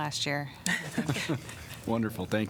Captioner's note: laughter